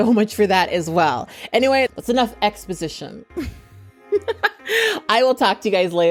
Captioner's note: laughs